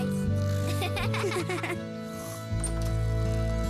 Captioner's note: giggles